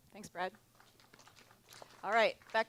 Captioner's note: applause